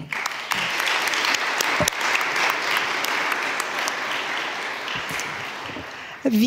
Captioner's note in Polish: oklaski